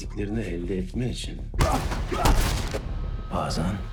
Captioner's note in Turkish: yumruk ve inleme sesleri